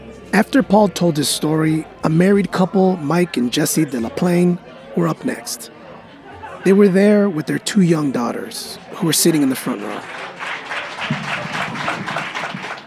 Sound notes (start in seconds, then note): 9.1 crowd sounds, applause